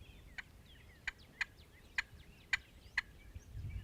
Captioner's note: turkey calling